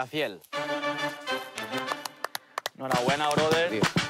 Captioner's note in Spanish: Aplausos